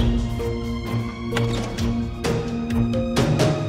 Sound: door opening

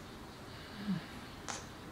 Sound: moans

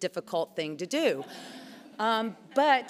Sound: laughs

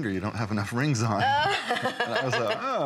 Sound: laughter

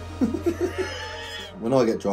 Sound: both laughing

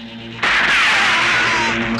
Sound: gunshot

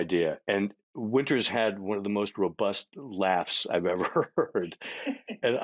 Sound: chuckling; laughing

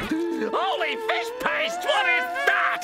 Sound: screaming

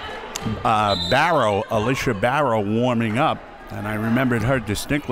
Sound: whistle

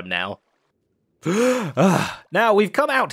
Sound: gasps for air

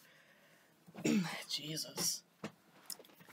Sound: clear throat

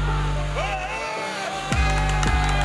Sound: heavy bass; yelling; cheering

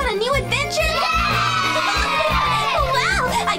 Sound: voiceover; shouting

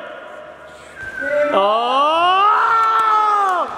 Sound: yells

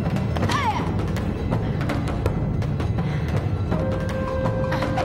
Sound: Caitlin shouting

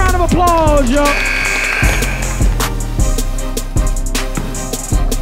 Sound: crowd applauding

